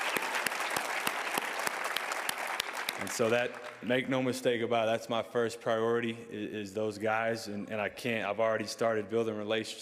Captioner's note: cheers and applause